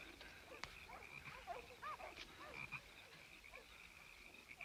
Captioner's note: frogs croaking; leaves rustling; dogs barking